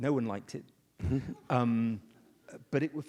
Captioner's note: audience laughs